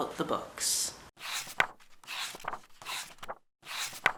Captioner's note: pages turning